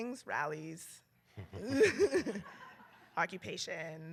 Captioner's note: laughter